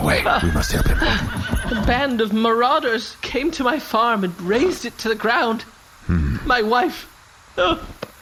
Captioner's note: sobbing